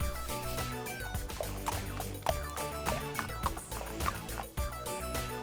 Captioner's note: horse trotting